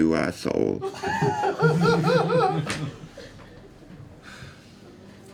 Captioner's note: laughter